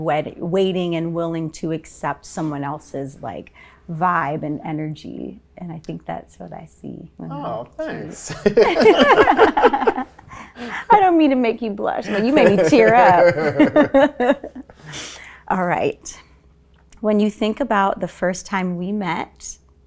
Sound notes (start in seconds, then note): 7.8 laughing